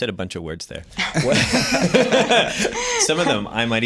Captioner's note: laughter